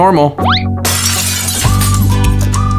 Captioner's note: glass shattering; lighthearted music